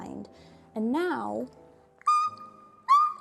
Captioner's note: squeaks